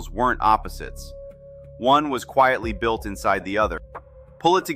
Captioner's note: thoughtful